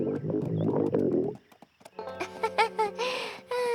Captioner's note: laughs nervously